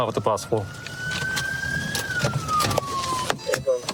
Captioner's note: sirens blaring